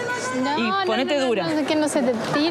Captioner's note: speaking In Foreign Language